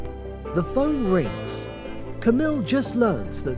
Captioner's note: phone buzzing